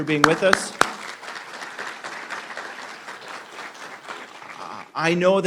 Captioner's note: applause